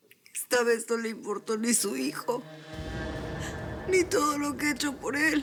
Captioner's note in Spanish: sollozos